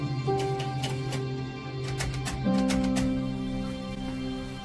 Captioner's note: keys clacking